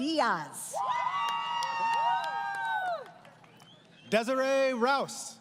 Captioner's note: crowd Cheering